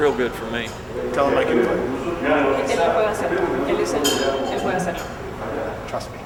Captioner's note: speaking Spanish